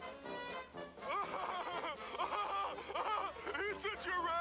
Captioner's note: circus music; laughter